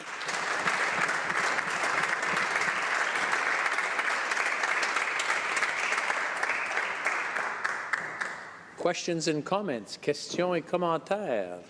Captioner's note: applause